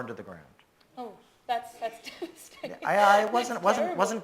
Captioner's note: laughs